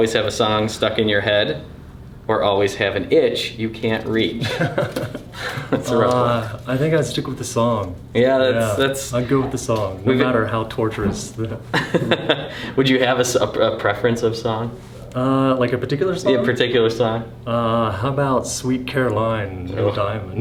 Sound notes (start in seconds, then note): 11.7 laughter